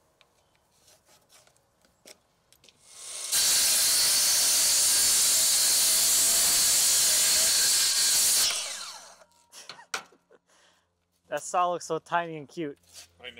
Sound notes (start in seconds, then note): 2.8 saw whirring; 9.4 chuckles